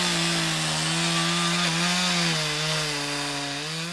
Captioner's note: chainsaw whirs